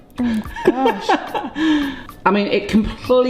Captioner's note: laughs